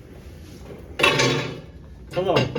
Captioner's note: clank